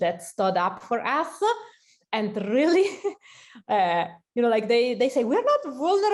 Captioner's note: laughter